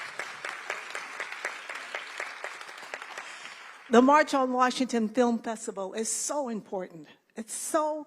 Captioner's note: applause